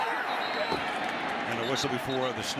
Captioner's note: whistling